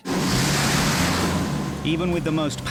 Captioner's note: waves roar